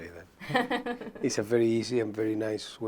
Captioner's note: laughs